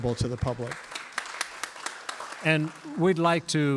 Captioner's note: applause